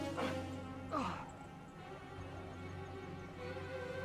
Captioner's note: Eric gasps